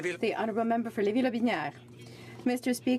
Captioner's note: speaking French